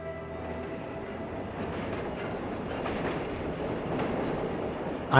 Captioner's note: train rails